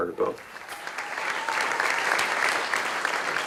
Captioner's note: audience applause